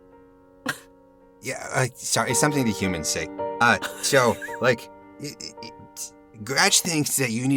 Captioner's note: chuckles